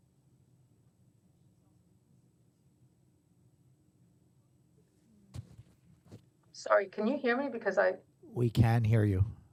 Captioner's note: audio interruption